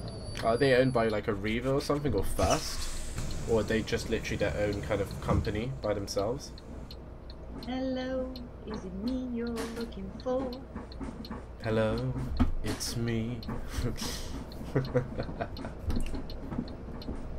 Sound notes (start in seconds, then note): 14.5 he Laughs